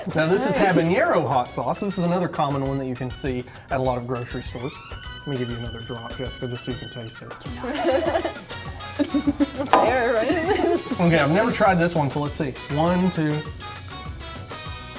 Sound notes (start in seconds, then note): 7.5 laughter